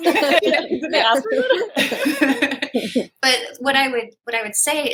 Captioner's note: laughter